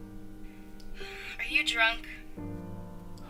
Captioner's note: sighs